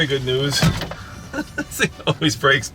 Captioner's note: laughs